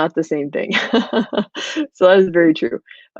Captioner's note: laughing